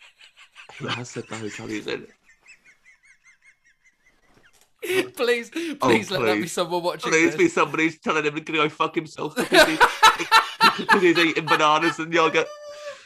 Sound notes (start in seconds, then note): 0.0 laughter; 9.3 laughter